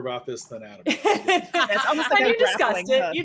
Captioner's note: laughing